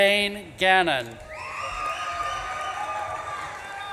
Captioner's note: audience claps and cheers